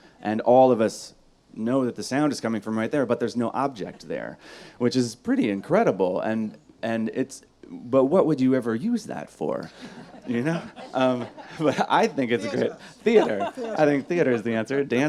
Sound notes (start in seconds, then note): 9.7 audience laughs